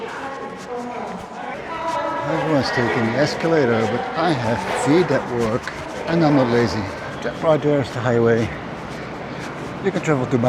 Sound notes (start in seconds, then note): 0.0 announcement over tannoy; 2.3 foreign language